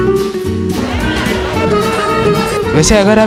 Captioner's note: crowd